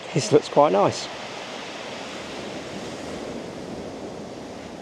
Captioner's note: waves lapping